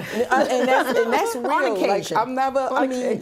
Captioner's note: laughter